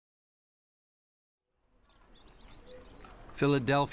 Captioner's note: horse clopping